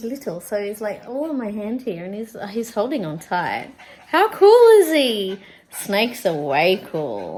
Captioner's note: gasps